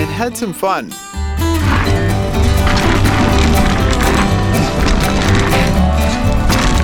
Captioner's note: guitar music; bicycle wheels spinning